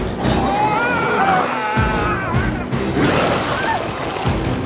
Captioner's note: intense music; biker screams